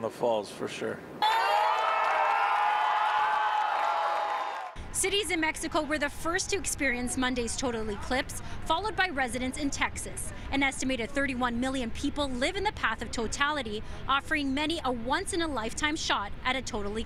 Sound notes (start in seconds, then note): 0.0 crowd noise; 1.2 cheering